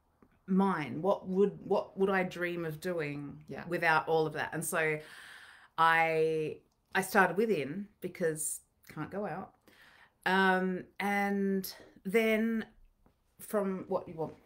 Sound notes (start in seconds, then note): none